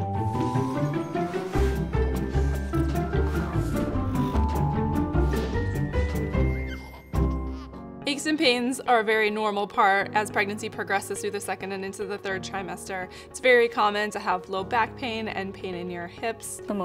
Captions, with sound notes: (playful instrumental music) (baby giggling) >>MD OB/GYN - Aches and pains are a very normal part as pregnancy progresses through the second and into the third trimester. It's very common to have low back pain and pain in your hips.